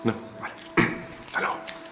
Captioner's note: clears throat